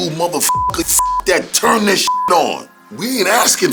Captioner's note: beep